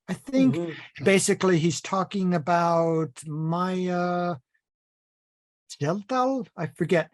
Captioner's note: foreign language